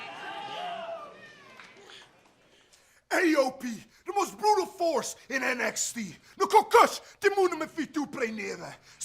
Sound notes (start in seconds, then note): 5.3 crowd cheering; 7.8 speaking in foreign language